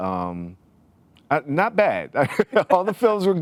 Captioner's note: laughs